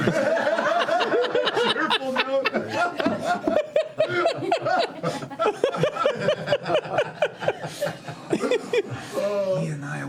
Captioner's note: laughter